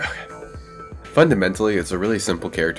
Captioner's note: screaming gets loader over this paragraph